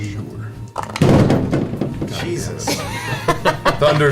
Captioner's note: elbows the set, which makes a loud thump noise